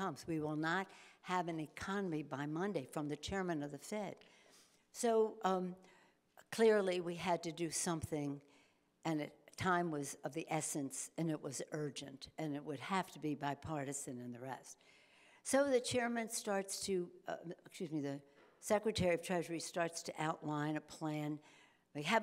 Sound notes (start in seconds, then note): none